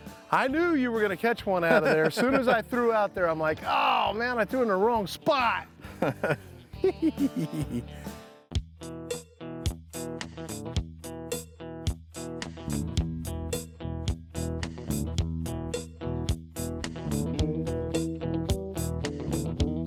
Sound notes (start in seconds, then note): 6.7 both chuckling; 8.8 laid-back guitar music